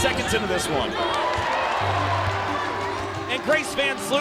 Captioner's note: audience cheers; upbeat music continues